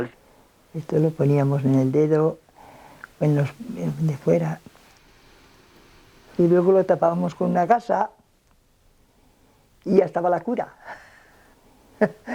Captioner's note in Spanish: ríe